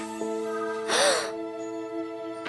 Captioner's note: gasps